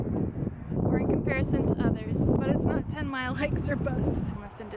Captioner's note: loud wind